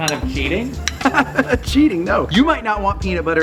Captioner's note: Rocky laughs